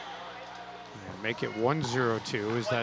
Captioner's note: ball bouncing; people chattering